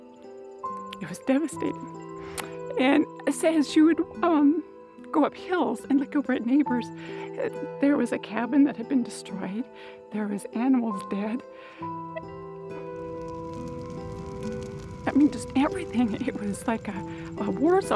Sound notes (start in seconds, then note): 11.8 fire crackling